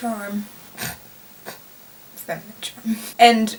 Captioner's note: chuckles